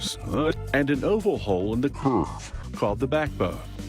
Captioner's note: deep voice